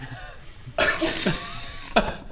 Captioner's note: unfooled laughter